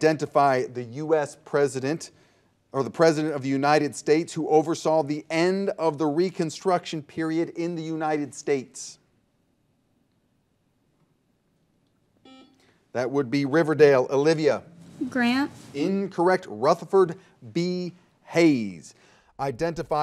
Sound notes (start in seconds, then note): 12.2 buzzer dings